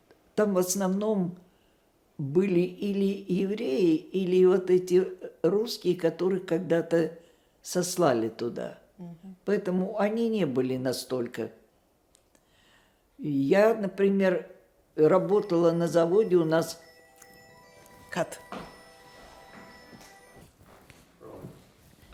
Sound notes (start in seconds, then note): 15.2 phone ring